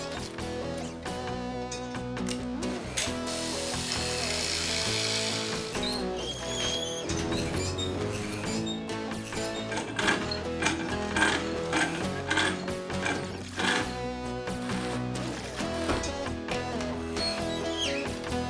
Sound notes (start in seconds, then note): 3.4 saw Buzzing; 10.1 jack Cranking